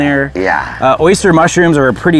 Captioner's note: gatherers murmuring